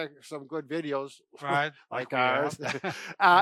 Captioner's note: laughs